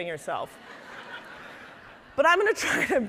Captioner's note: audience laughing